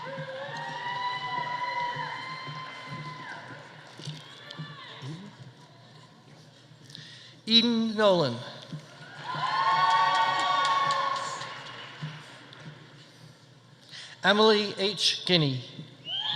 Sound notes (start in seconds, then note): 0.0 audience cheering; 9.1 audience cheering; 9.2 audience applauding